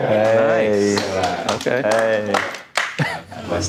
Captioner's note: audience clapping